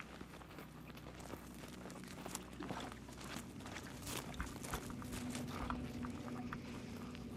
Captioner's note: footsteps thudding; tense music